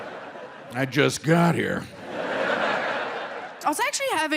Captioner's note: audience laughing